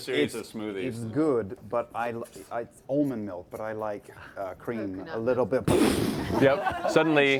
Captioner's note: explosion